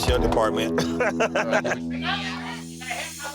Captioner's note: laughter